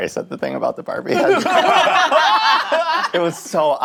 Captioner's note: all laughing